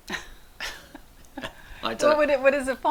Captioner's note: both laughing